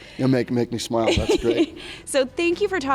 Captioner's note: laughs